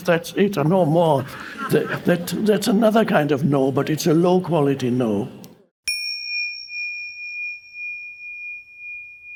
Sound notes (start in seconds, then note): 5.8 bell dings